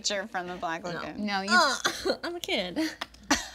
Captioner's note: grunting; group laughing